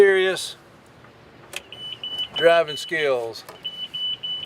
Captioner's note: beeping